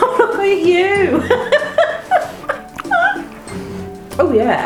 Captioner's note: laughs